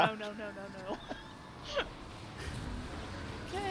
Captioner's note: laughs